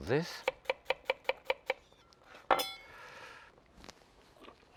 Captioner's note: knife tapping